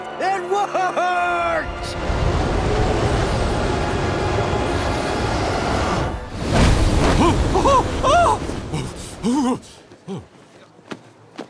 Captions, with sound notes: It worked! Ooh. Oh! [shivering]